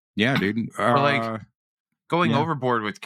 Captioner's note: clears Throat